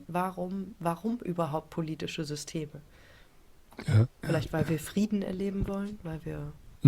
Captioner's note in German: räuspern